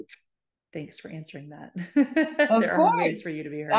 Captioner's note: chuckles